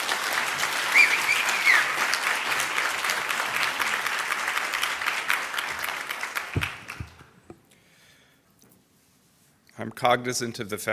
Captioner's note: applause